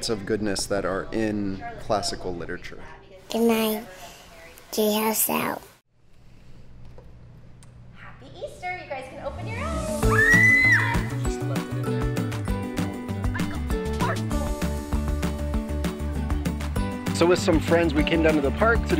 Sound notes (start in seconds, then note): 9.5 kids scream; 11.4 playful music